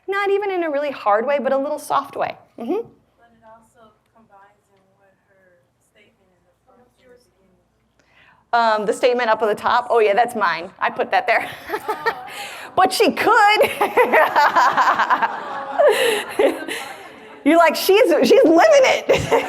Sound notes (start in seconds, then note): 11.4 laughs